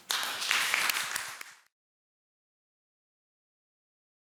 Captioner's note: attendees applauding